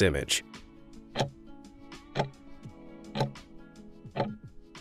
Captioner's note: timer ticking